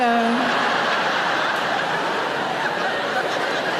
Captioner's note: audience laugh